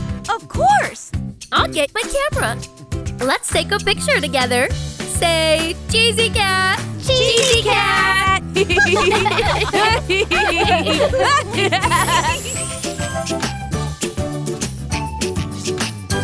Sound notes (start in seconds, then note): 8.5 laughter; 12.7 tropical music